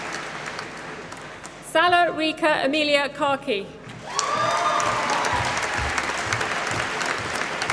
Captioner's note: applause